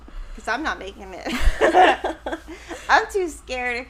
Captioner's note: chuckles